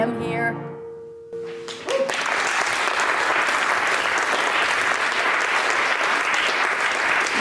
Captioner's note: applause